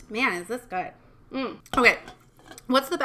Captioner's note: can thumping